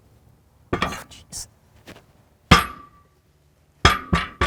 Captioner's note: wood clunking